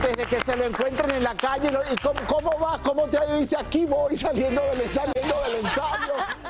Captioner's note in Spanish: aplausos